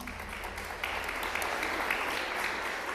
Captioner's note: applause